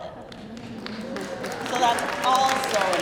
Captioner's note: crowd cheering